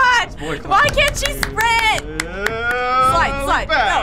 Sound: whimpering

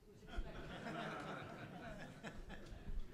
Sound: laughter

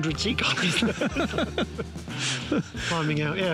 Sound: laughs

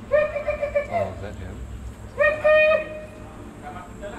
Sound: man calling out

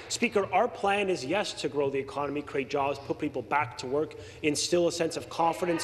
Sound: applause

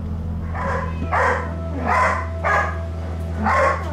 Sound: barks

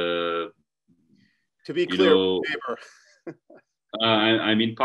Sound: chuckles

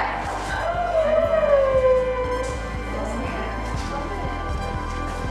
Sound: women squealing

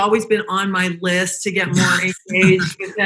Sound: laughing

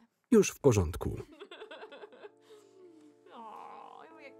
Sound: Kym and Lana laugh

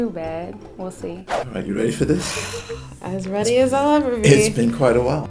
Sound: sighs

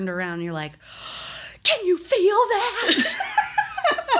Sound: gasps; laugh

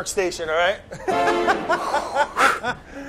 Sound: laughter

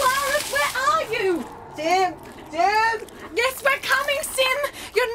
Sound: Wet FOOTSTEPS and Solaris SLIPS in the squ-chelch

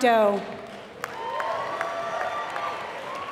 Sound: applause

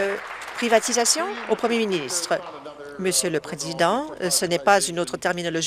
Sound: applause

